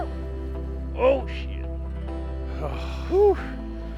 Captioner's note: voice offscreen